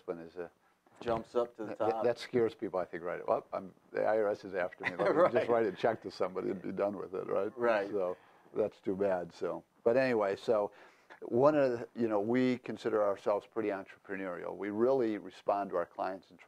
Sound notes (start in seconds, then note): 4.8 laughing